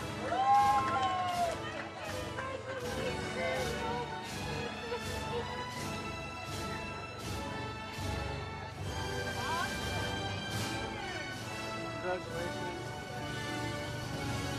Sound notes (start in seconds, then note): 0.0 audience cheers; 5.5 ceremonial music